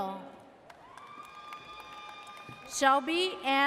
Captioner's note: audience cheers